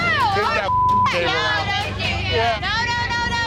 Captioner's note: beep